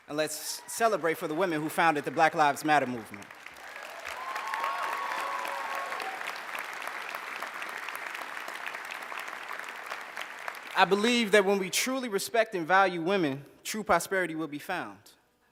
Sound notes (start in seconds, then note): 3.5 cheers, applause